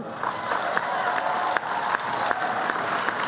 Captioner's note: applause